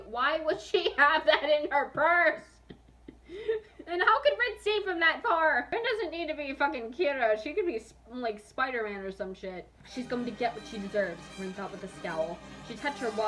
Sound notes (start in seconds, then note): 2.6 chuckles